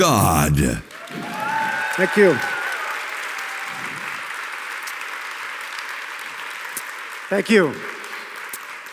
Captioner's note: applause